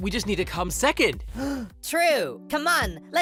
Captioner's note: gasp